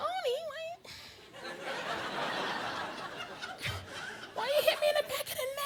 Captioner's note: audience laughing